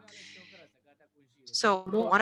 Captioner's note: speaking burmese